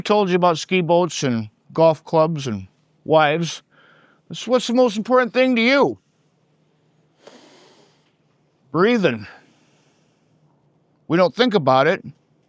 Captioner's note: inhales